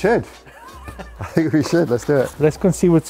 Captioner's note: laughing